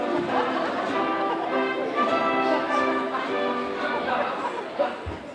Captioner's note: audience laughing